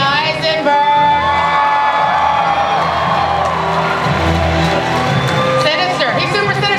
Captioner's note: audience cheering and applause